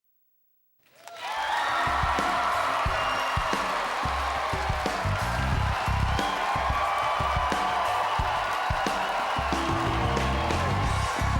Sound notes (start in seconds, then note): 0.9 clapping and cheering; 7.0 upbeat music